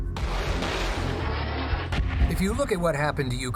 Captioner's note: weapons firing